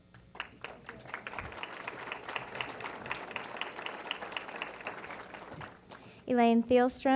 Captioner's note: applause